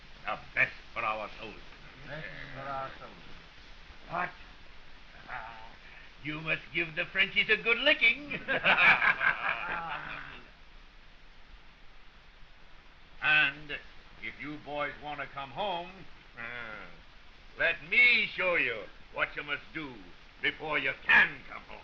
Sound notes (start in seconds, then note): 8.2 all laughing